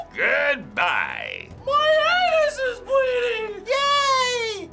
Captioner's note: high-pitched voice